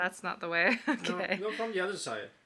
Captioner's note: soft chuckle